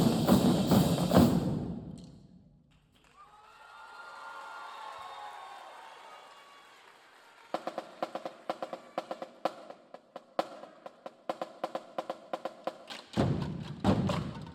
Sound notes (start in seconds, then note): 3.1 audience cheering; 7.5 upbeat drumming music